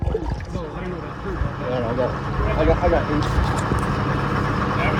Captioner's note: motor running